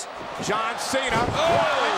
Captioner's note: body thudding